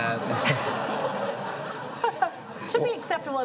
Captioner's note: audience chuckles